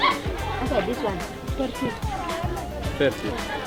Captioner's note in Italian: Inglese